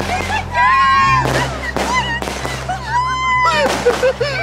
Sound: fireworks cracking

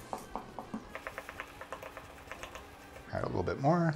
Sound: rapid stirring

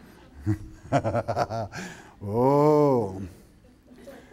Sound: laughs

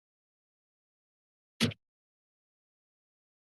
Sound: pause; click; silence

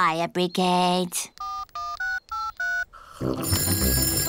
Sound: dialing; phone rings

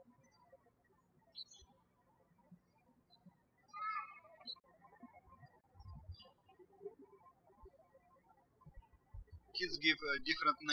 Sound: birds chirping

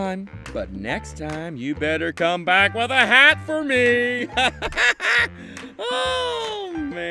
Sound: Percy laughing

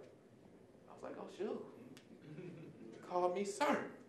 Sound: audience chuckling

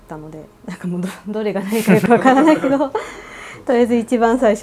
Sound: laughs

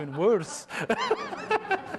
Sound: laughter

